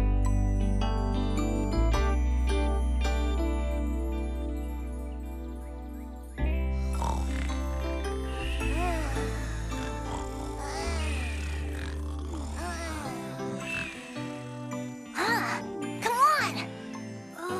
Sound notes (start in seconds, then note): 7.5 all Snoring